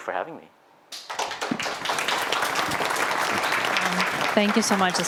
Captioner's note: applause